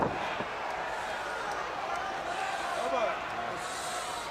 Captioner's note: crowd chattering